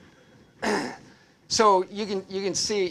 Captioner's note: clears throat